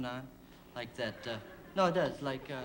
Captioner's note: laughter